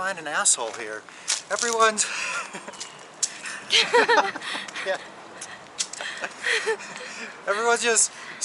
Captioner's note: laughter